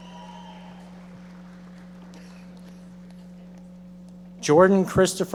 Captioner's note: audience members applauding